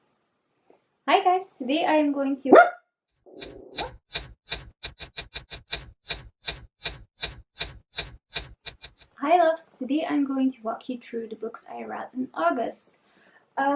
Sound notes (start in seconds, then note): 2.5 Hazel barks again; 3.4 typewriter sounds insinc with the typing on screen